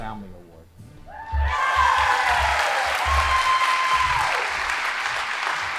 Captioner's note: audience applauding